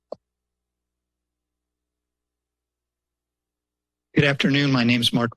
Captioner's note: silence